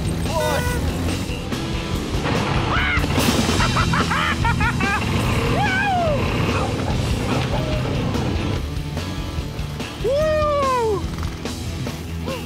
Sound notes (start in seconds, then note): 2.6 laughing hysterically; 10.0 cheering